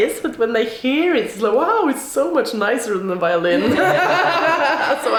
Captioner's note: laughs